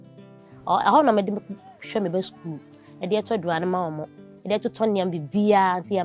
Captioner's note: speaking foreign language